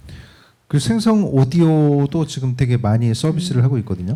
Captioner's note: speaking korean